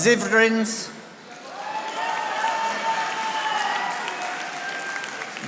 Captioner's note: audience applauding